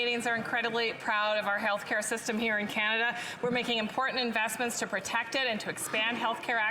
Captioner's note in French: voix de l'interprète